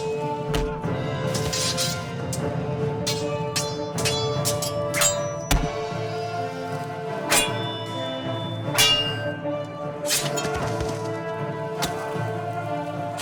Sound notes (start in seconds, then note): 1.1 swords clashing